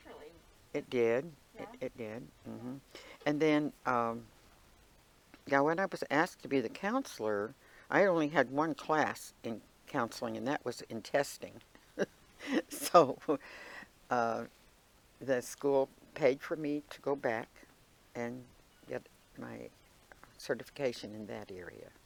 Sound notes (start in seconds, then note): 12.4 laughing